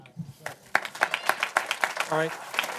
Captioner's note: applause